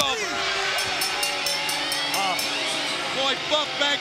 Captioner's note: bell ringing